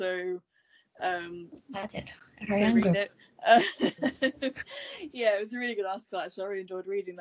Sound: laughs

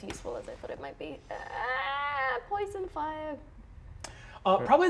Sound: groans

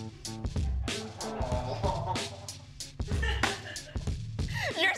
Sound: laughter

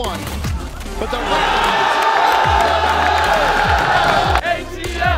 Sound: crowd cheering

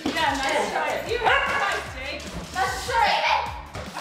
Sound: dog barking

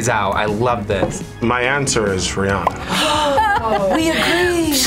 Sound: gasps loudly

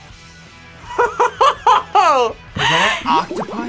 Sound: laughs

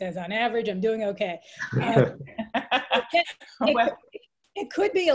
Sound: laughter

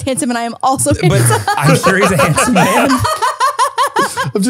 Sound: everyone laughs

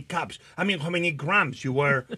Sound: Martha chuckles

